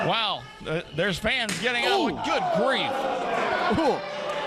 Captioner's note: loud slap; crowd murmuring